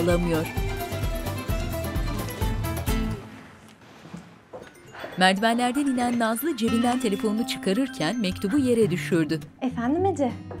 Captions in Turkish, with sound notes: (Telefon zili sesi) Efendim Ece.